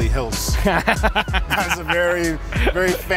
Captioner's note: laughing